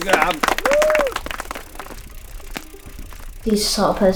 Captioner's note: clapping and cheering